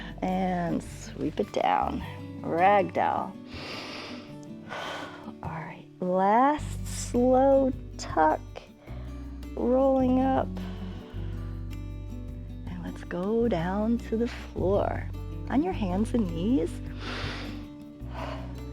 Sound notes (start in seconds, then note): 3.4 inhales and exhales; 10.2 exhales; 16.9 inhales and exhales